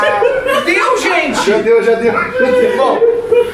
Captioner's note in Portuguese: risadas